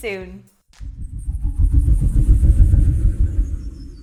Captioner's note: whooshing